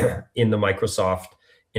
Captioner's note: clears throat